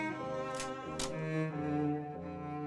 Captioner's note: cocks gun